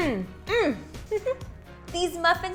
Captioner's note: giggles